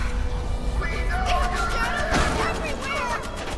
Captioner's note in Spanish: helicóptero